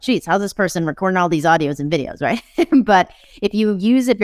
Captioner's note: chuckles